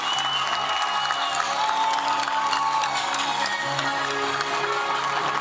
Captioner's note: applause; cheering